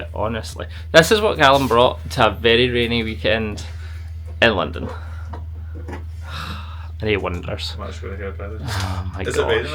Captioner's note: sighs